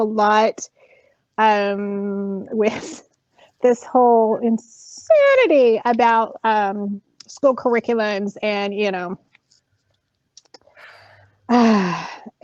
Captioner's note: exacerbated sigh